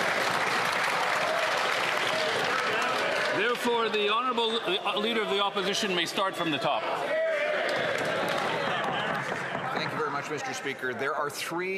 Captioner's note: some Applause